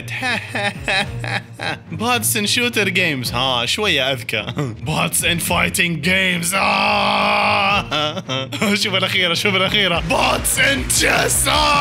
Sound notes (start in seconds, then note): 0.1 sarcastic laughter; 7.8 laughter